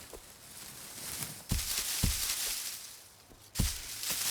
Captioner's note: none